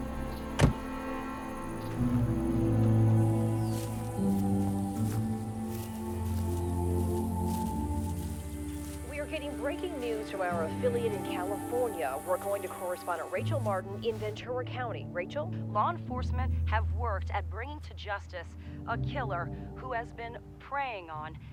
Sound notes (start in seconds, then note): 0.4 door slamming; 1.9 somber music; 3.2 grass crunching